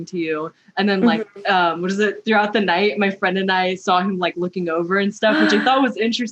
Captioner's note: gasp